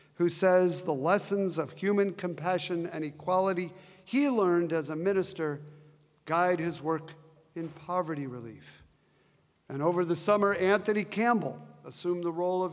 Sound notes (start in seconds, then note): none